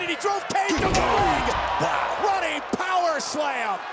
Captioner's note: crowd groaning; body thudding